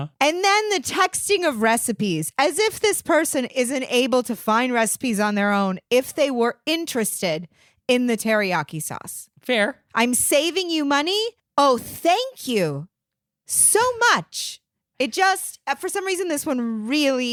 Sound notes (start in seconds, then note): none